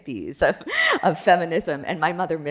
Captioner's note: chuckles